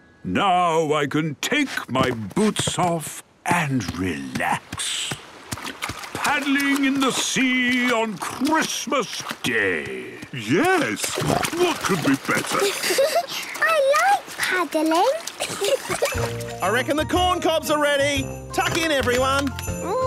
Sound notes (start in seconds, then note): 10.9 snorting; 15.4 giggling